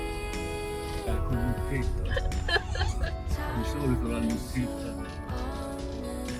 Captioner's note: laughs